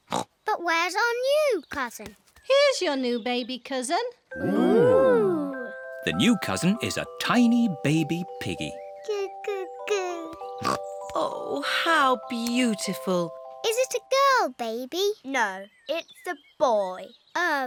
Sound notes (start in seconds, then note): 0.0 oinks; 10.6 snorts